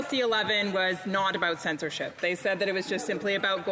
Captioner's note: speaking French